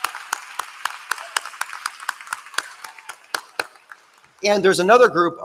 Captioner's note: applause